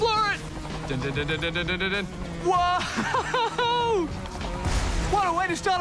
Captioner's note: chuckles